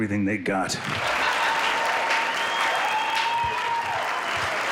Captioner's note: applause